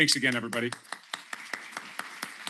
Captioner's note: applause